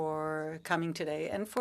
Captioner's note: speaking French